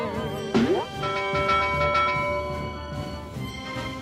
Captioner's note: rope twangs; bell clangs